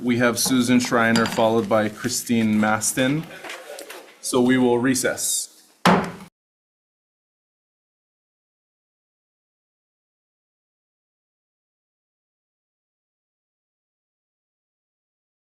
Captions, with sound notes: we have Suzanne Shriner followed by Christine Mastin. So we will recess. (gavel bangs)